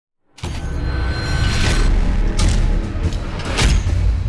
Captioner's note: metal clashing